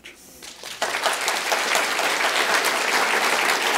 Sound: applause

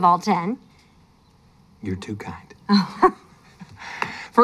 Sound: chuckles

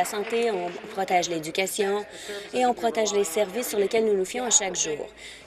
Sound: applause

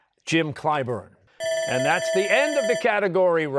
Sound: bell ringing

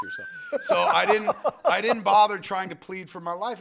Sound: laughs

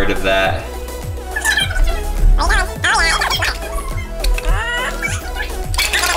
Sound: fast forward sound effect

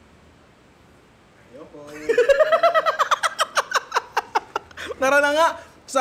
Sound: laughs

